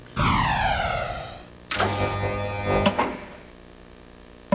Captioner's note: mechanical buzzing